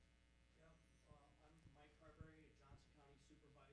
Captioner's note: voiceover